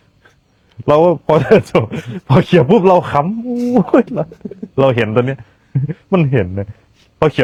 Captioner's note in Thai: เสียงหัวเราะ